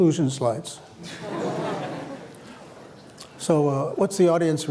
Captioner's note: laughter